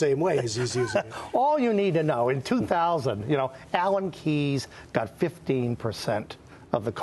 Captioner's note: laughter